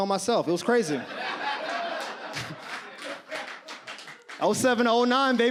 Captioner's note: audience laughs